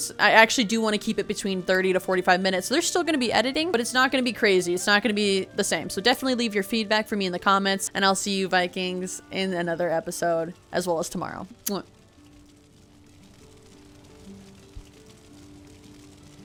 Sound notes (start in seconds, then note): 11.6 kiss